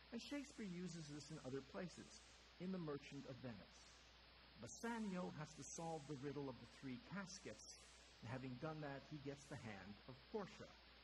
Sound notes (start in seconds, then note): none